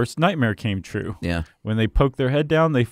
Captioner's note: voiceover